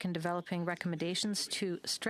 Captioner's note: speaking French